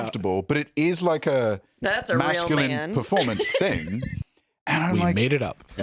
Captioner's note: laughs